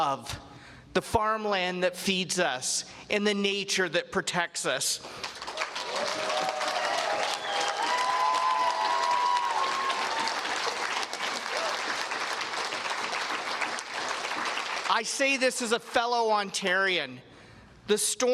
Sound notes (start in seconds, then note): 5.3 cheers and Applause